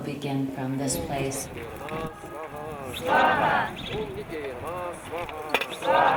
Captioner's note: foreign Language